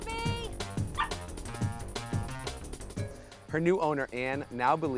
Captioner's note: shouting; dog barking